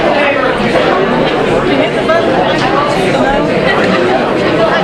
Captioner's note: audience murmuring